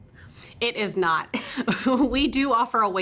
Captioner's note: chuckles